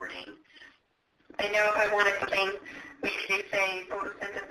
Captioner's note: voiceover